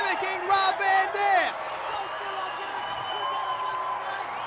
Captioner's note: crowd cheers